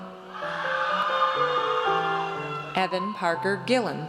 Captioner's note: audience cheers